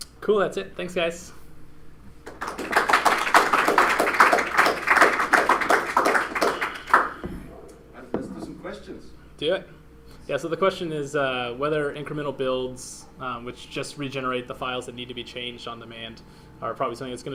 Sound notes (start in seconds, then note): 2.2 applause